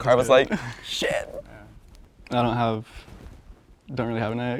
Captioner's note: sobs